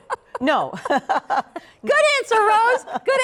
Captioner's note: laughter